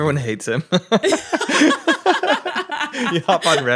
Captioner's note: laughs